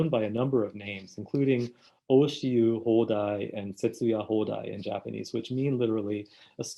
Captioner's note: speaking in Japanese